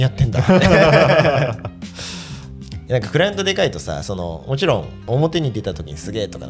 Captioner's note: laughs